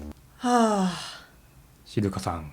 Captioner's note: sigh